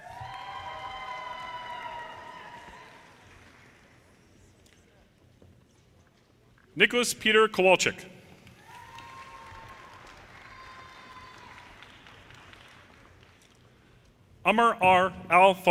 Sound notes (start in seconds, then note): 0.0 audience cheers and applause; 8.5 audience cheers and applause